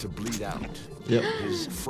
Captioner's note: gasping